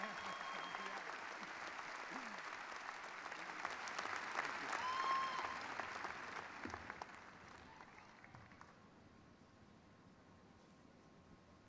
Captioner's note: applause